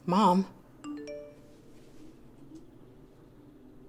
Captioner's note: phone beeps